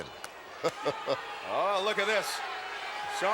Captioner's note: Ted chuckles